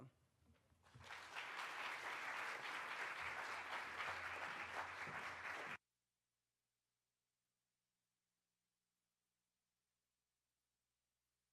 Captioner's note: applause